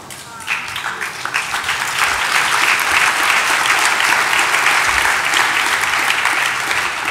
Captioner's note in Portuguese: Aplausos